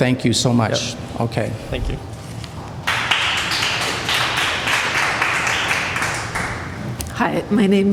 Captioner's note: applause